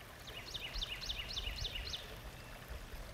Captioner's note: birds chirping, water flowing